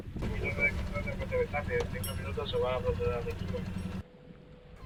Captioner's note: Talk on VHF radio